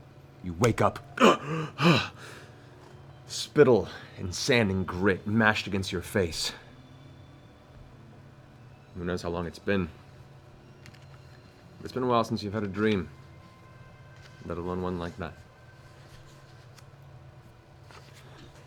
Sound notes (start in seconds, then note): 1.2 gasp